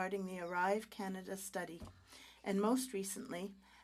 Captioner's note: speaking French